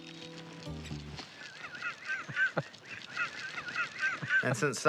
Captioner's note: laughs